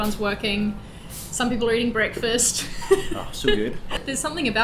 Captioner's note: laughs